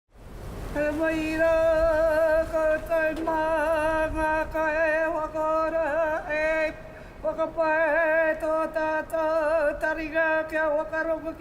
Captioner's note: chanting in Maori